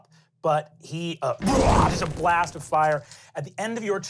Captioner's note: growls